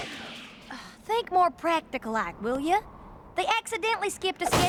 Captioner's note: scoffs